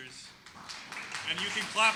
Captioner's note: audience applauding